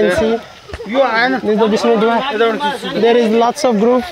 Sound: Napali Language conversation

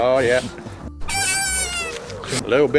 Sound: squeek

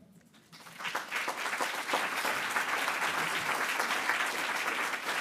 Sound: audience applauding

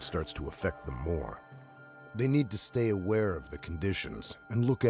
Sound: voiceover

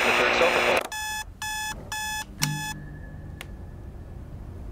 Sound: radio shuts off, followed by the alarm

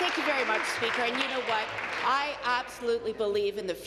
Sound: applause

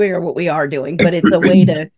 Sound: cough

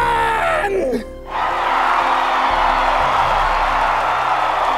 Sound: crowd cheering

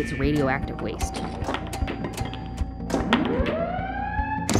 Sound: alarm

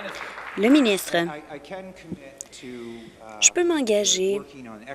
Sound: applause

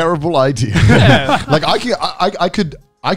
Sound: all laughing

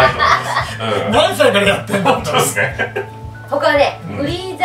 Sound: laughs

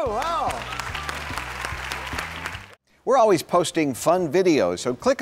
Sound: everyone applauding

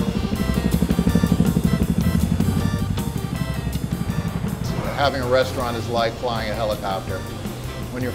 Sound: helicopter sound

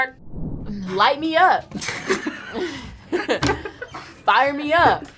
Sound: both laugh

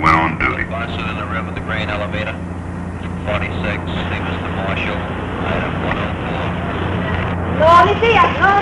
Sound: sounds of police radio

